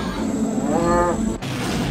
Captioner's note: bull grunt